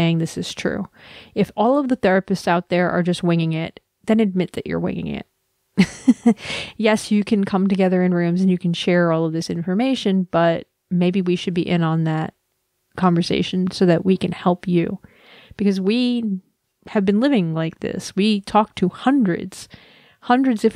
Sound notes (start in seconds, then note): 5.8 laugh